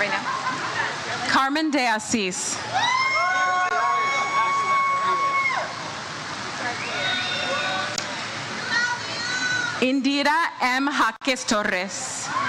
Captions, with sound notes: Right now? Carmen De Asis (audience cheers) - Congratulations. (audience member cheers "We love you!") Indira M. Jacques Torres.